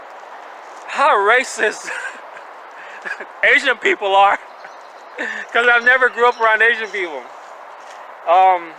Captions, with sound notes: how racist asian people are, (chuckling) 'cause I never grew up around asian people.